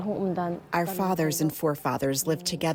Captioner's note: through translator